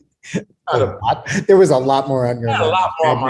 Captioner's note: laughs